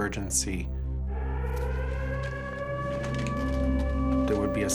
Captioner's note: sirens